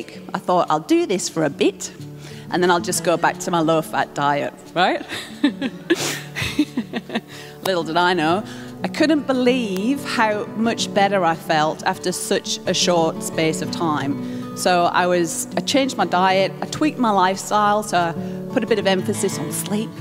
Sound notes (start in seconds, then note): 5.0 laughs